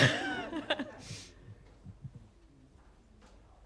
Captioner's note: laughter